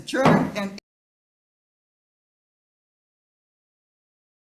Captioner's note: gavel thumps